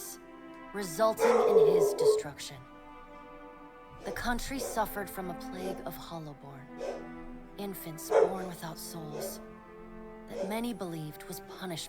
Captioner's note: dogs barking at a squirrel they saw run past the window ledge downstairs